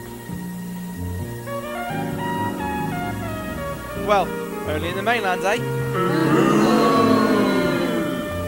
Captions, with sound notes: "Well, only on the mainland, eh?" *booing*